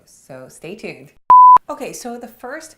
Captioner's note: screen beeps